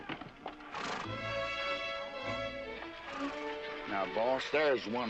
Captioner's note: horses snorting